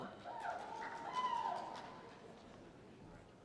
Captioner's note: cheers